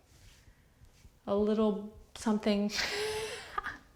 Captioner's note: laughs